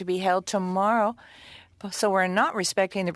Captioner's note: speaking French